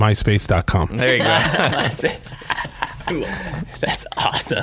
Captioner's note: laughing